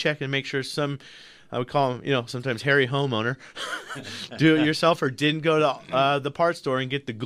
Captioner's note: both laugh